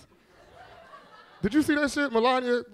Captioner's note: all laughing